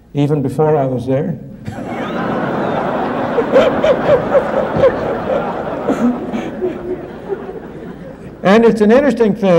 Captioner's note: laughter